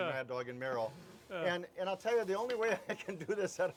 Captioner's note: rice rustling